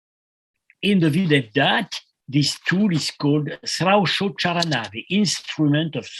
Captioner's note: non-english